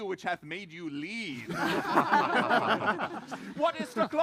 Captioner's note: laughter